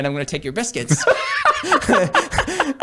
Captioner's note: laughing